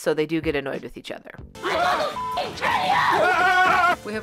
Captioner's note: Laszlo screaming